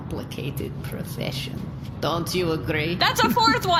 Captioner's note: shouting